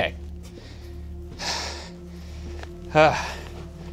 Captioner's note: sighing